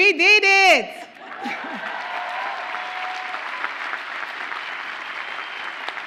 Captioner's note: audience cheers and applauds